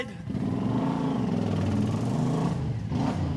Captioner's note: motorcycle approaching